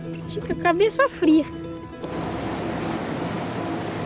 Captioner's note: Portuguese spoken audio